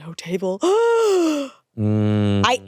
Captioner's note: gasps